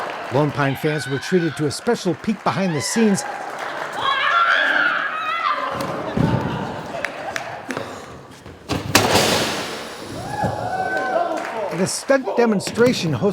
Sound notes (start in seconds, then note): 3.6 screaming; 10.4 fans cheering